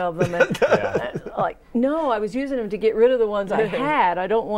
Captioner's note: laughing